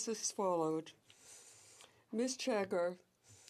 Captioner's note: speaking in french